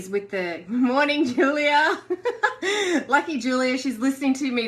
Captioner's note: laughter